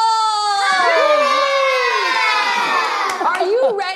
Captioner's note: cheers